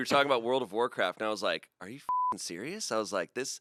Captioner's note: beep